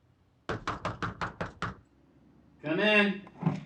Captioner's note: knocking at door